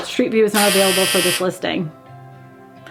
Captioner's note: buzzer blares